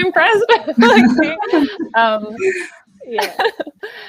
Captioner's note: laughing